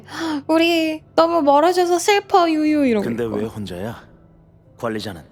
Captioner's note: sob